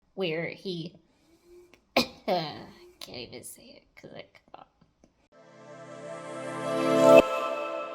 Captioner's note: cough